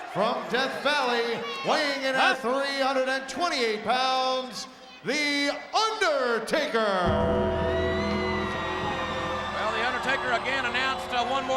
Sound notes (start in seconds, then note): 7.0 gong gonging